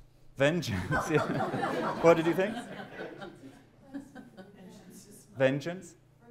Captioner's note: laughter